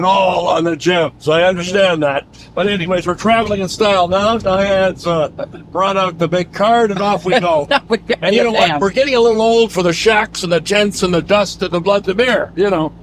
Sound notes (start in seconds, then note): 0.0 all laugh; 7.0 laughs